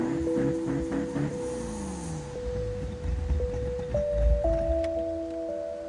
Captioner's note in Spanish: Ruidos del auto